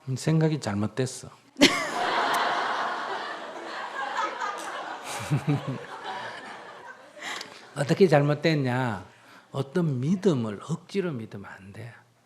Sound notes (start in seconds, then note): 3.1 audience Laughter; 4.1 questioner Laugher